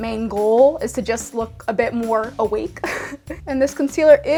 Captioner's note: laughs